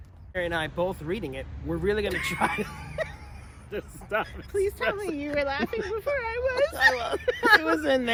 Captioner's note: laughing